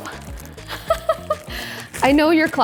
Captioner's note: laughs